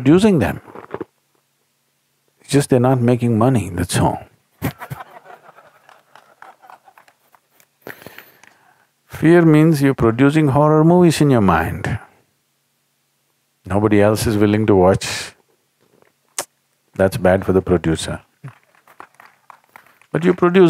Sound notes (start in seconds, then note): 4.6 laughs; 4.6 audience laughs